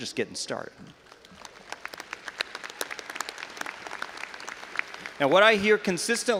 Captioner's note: audience applauding